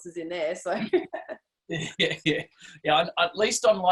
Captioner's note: both laugh